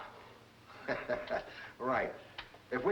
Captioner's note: Mike laughs